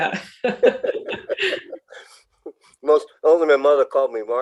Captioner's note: laughing